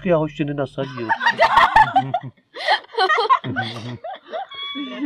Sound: laugh

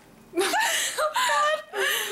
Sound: ladies laughing

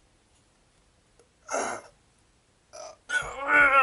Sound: struggling in pain

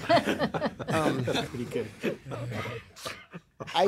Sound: laughter

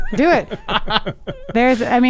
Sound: guys laughing

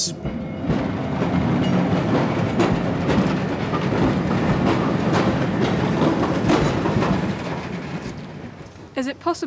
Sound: sound of steam train passing

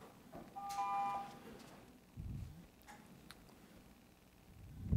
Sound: buzzer rings

